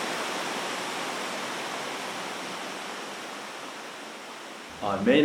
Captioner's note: rushing water sound